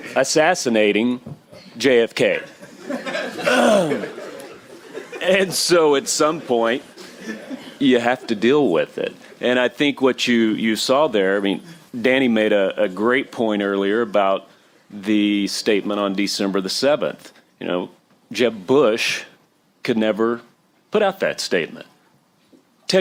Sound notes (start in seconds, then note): 2.5 laughter